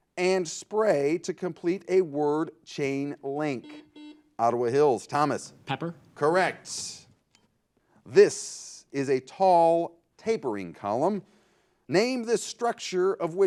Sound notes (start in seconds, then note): 5.7 buzzer